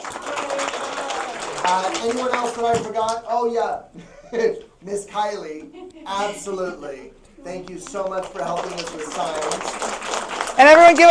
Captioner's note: applause; applause